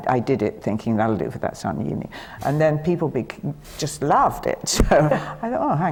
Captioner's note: laughs